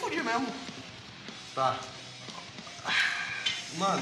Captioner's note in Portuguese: suspiro